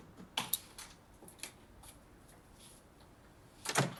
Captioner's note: door opens